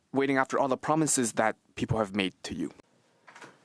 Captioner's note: speaking French